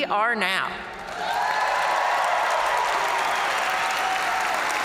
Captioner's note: audience cheering